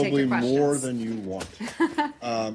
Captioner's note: laughter